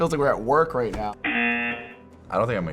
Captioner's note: buzzer